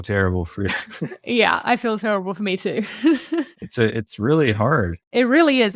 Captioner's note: laughs; laughs